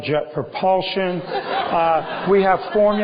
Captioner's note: laughter